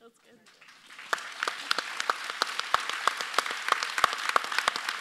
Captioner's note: audience applauds